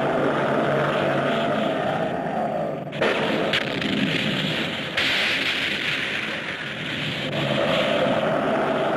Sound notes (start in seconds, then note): 3.0 explosions booming